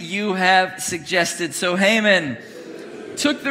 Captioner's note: congregation booing